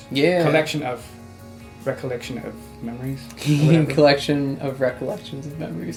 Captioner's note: giggles